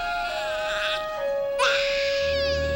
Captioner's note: baby continues crying